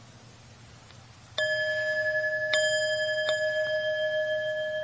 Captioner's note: bells chiming